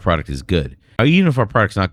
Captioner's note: uh